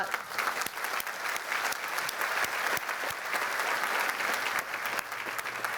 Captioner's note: applause